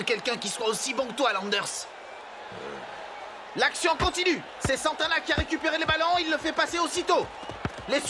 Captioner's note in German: beifall